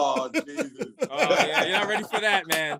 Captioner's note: laughter